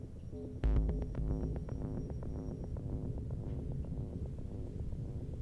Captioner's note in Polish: Krótkie, miarowe, elektroniczne łopotanie